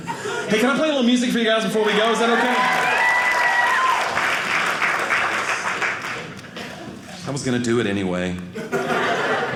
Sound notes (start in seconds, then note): 1.8 audience applauding; 8.6 audience laughing